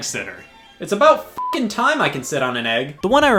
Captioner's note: beep